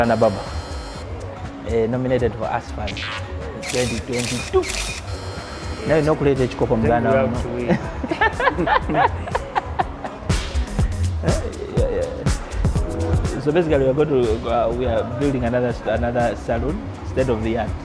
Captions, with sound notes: - Yes, this is Lana barber. Nominated for Ask Fund 2022. (both speaking in foreign language) (both laughing) - So basically we are building another salon,